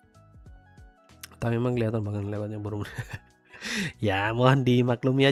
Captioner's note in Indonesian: tertawa